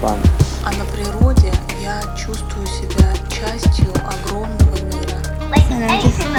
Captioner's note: Russian